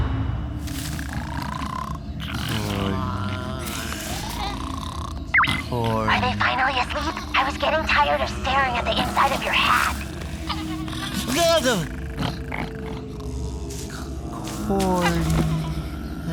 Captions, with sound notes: -[snoring] -[sleepy moaning] Are they asleep? I was getting tired of staring at the inside of your hat. Bleugh! Corn. Ah...